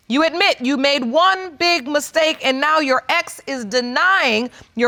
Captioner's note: none